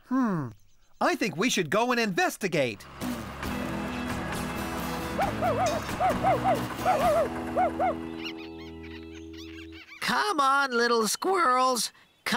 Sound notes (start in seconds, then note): 5.2 barking; 8.7 squirrels Chattering